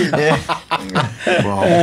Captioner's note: laughing